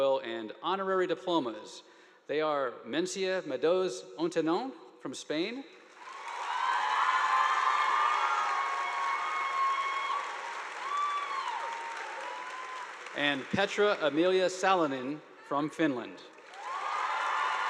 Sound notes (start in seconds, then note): 5.9 audience applauding; 6.0 students cheering; 16.3 audience applauding; 16.4 students cheering